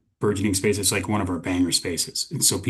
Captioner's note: chuckling